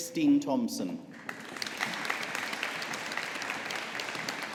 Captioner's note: audience applauding